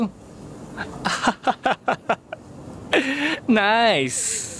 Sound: chuckles

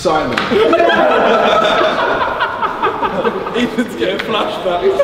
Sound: group laughing

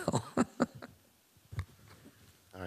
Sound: laughs

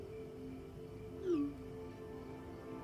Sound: notification chimes

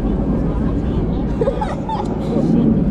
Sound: laughing

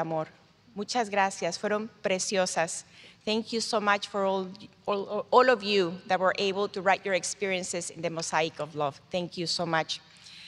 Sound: speaking in spanish

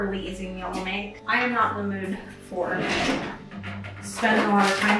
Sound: drawer opening

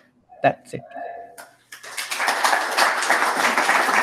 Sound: applause

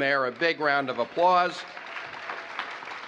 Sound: applause

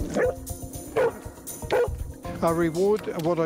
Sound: barking

